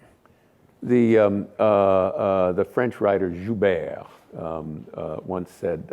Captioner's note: speaking french